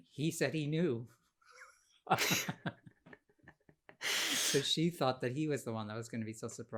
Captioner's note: laughter